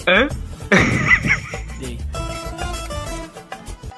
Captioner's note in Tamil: சிரிப்பு